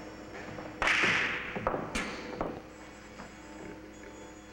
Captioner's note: balls clatter